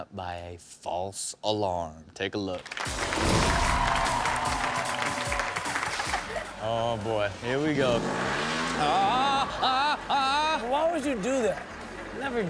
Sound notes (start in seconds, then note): 2.6 audience applauds; 7.3 engine revs; 9.0 Rob groans